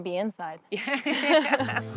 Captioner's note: laughs